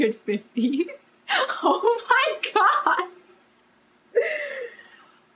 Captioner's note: laughs